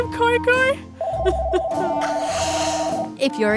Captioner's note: phone rings